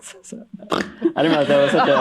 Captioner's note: both chuckle; snort, laughter